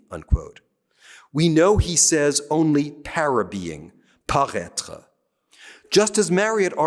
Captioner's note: speaking french